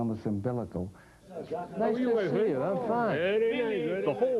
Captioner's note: background chatter